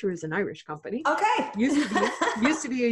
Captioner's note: laughing